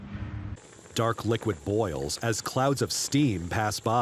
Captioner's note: boiling liquid